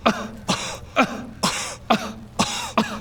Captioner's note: kuh